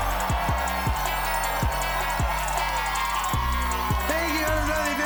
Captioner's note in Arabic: موسيقى متفائلة; هتاف وتصفيق